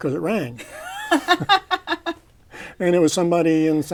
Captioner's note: laughter